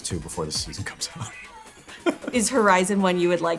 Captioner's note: laughs